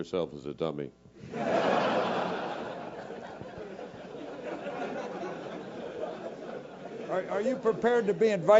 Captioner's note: laugh